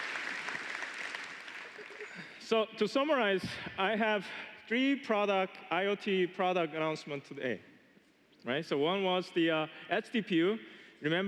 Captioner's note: applause